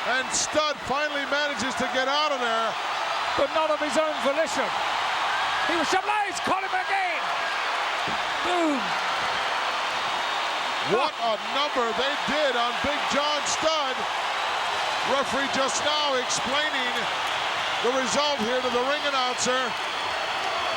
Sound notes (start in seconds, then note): 9.1 audience cheering